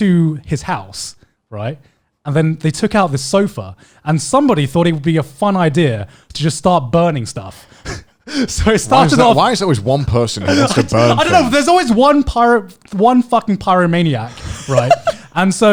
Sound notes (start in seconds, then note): 8.3 laughing; 14.3 laughing